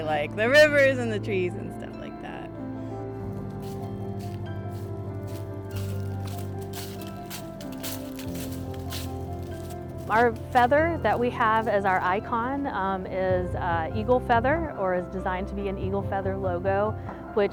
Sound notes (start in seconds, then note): 3.3 feet crunching on leaves